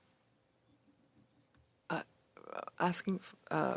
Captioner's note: speaking French